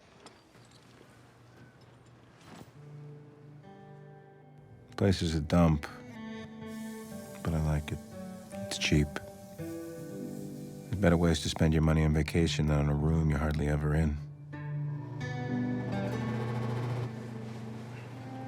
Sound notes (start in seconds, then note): 2.7 somber guitar music; 6.7 can spraying; 14.8 somber guitar music; 15.9 AC humming